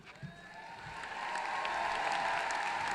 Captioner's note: applause